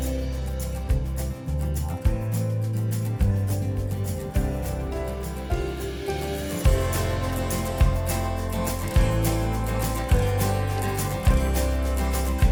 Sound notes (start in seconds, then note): 0.2 upbeat music; 5.7 whirring car